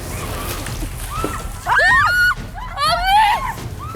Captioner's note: water dousing